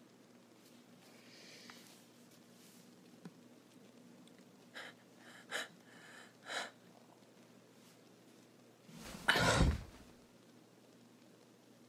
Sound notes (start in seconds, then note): 5.1 strained breathing continues; 9.3 thud